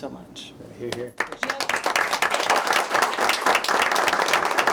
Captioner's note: applause